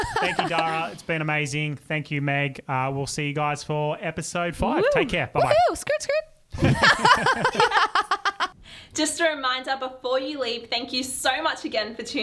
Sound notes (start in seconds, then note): 6.3 hooting; 6.5 laughing together